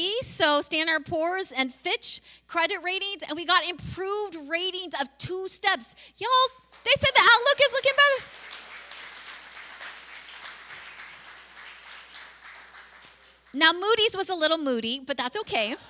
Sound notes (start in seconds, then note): 8.5 applause